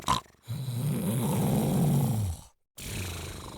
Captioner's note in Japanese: 鼻息